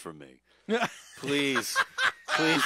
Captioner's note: laughter